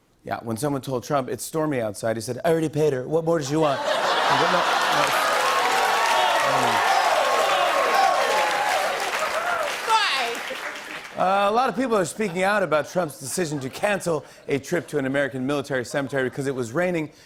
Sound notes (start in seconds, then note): 3.6 laughter; 6.8 audience oohs; 9.0 cheers and applause